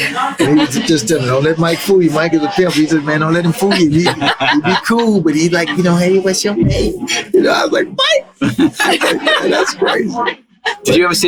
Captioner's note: flirty MJ voice